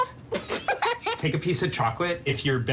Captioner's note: laugh